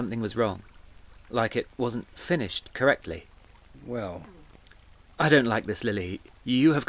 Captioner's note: none